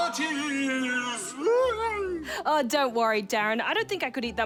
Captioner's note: whimpers